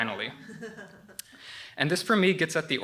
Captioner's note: laughter